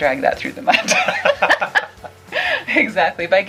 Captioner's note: laughter